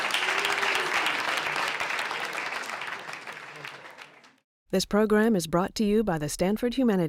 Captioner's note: applause